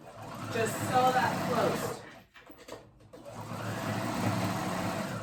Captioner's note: machine humming